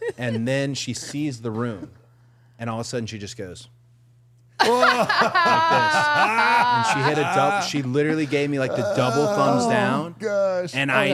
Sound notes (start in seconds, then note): 4.6 group laughing